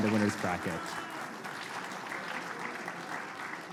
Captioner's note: applause